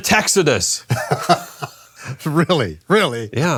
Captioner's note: laughing